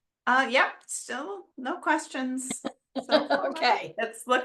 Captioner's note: chuckles